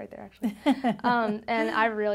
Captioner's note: laughs